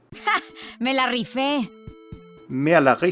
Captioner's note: Sombra speaking in foreign language; speaking in foreign language